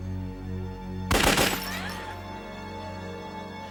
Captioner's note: gunshots